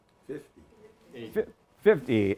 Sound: audience chattering indistinctly

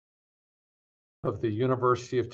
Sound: muted audio

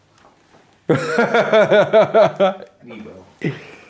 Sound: laughs

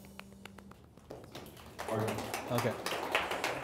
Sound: audience applauding

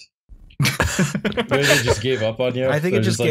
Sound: laughter

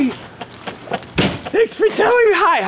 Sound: door slamming

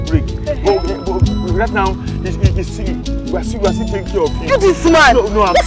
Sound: stammering

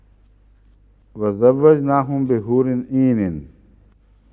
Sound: Arabic

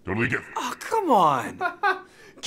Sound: laughs

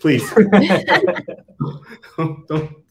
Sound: all laughing

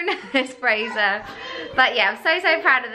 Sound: laughing

